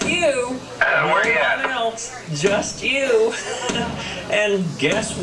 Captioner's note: laughter